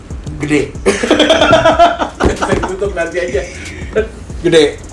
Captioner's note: laughter